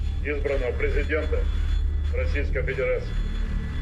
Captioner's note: none